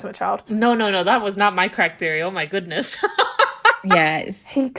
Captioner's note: laughing